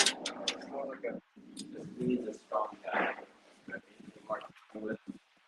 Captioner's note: students chattering